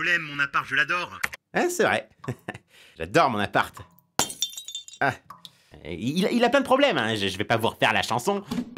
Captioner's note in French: rire